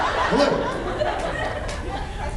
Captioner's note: laughs